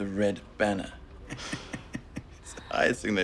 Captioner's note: laughing